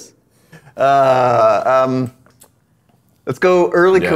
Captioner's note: laughing